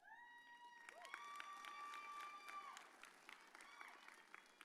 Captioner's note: audience cheers